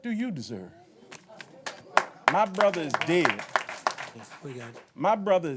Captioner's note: applause